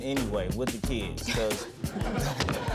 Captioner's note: audience laughing